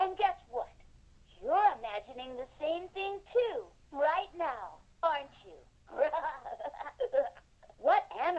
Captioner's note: laughs